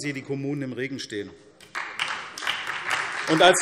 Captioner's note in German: Beifall SPD